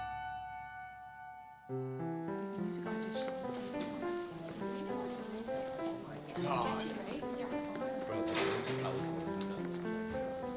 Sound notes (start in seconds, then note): 2.4 students chattering